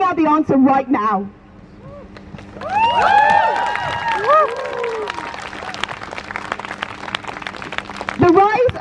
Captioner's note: crowd Cheers